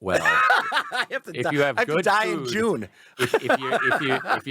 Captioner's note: laughs